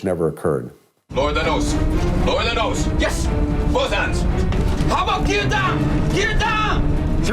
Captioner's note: flight crew speaking in foreign language